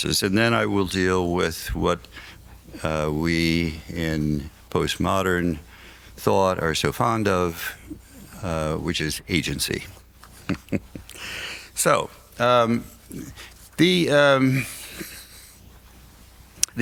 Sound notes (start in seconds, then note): 10.2 laughs